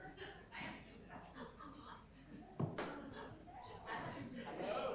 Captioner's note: faint voices chattering